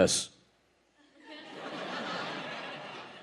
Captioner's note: audience laughing